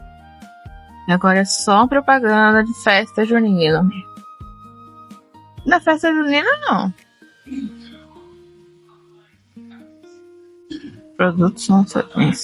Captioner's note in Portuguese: limpando a garganta